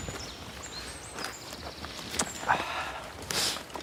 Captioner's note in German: Vogelzwitschern; Hörbares Atmen